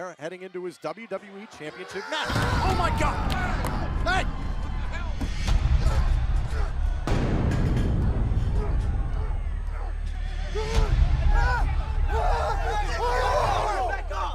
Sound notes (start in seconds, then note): 6.0 crowd chatter